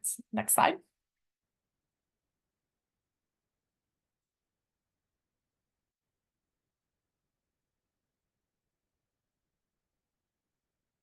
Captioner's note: silence